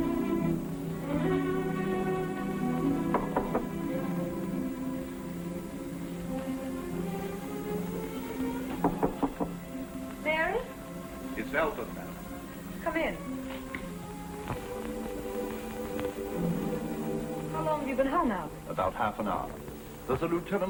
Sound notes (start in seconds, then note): 3.0 knocking